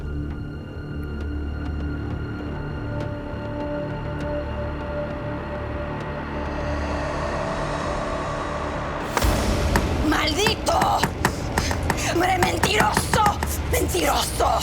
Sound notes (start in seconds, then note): 10.0 speaking Spanish